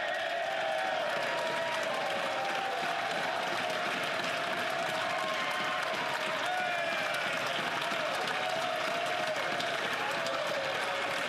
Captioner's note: cheering and Applause